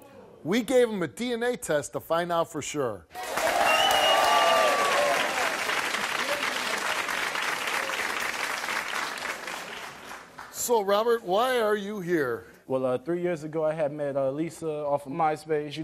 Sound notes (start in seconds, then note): 3.1 audience applause